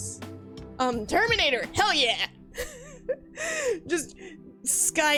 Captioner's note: laugh